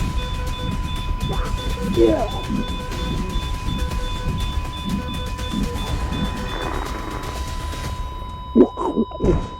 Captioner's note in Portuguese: grunidos